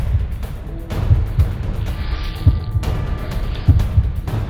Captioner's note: dramatic music; heart beating